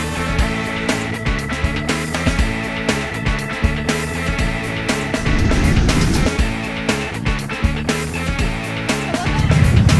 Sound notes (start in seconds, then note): 5.5 engines roar; 6.9 upbeat music